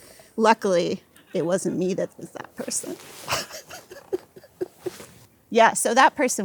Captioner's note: laughs